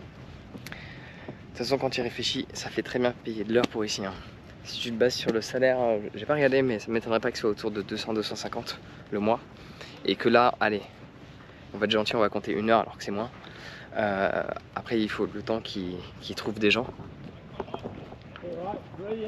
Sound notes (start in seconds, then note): 1.4 speaking in foreign language